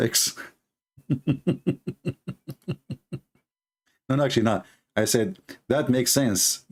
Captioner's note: Ketawa